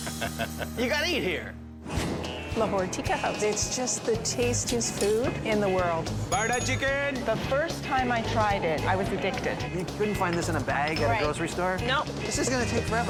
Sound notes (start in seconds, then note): 6.3 bell dings